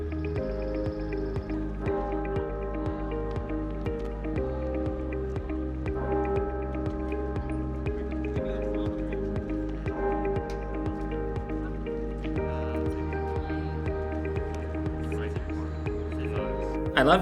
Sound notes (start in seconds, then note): 0.0 intro music; 2.3 bell tolling